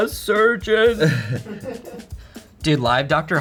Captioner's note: crew laughs